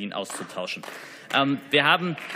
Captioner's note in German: Beifall